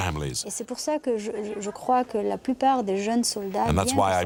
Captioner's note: French spoken audio